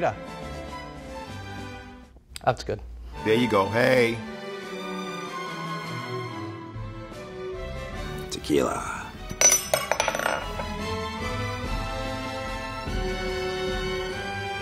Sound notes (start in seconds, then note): 0.1 quirky orchestral music; 4.2 quirky orchestral music; 9.3 lid clinking; 10.9 quirky orchestral music